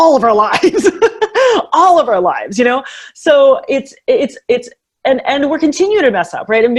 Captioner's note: laughs